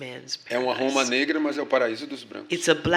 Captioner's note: speaking portuguese